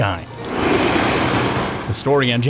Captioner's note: bus drives